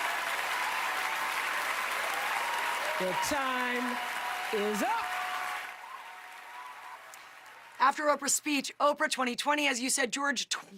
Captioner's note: applause